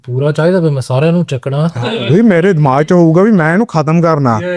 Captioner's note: laughs